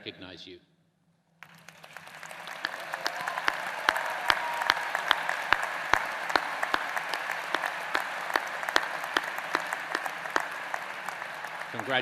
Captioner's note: applause